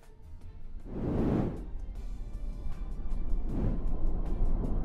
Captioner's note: whooshing